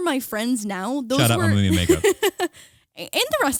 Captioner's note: laughing